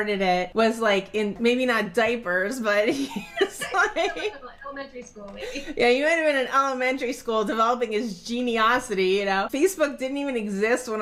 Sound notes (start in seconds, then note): 3.0 laughing